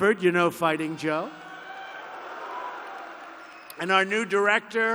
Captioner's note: applause